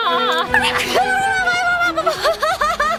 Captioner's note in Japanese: くしゃみ